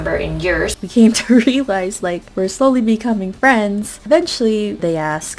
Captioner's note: laughs